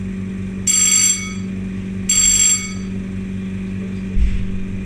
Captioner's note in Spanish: sonidos de timbre